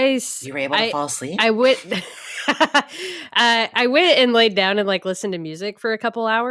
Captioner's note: laughs